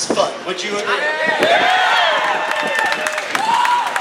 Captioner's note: cheering